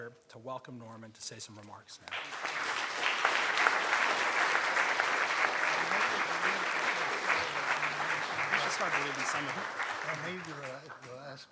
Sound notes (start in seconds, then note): 2.4 crowd clapping